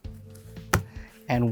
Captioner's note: cards thud